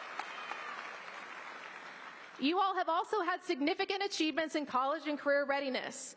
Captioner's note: applause